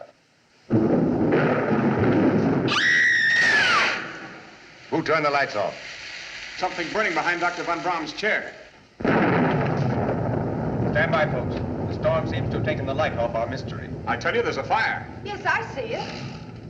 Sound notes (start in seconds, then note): 0.1 Mary Screams; 0.6 thunderclap; 3.3 electricity Crackling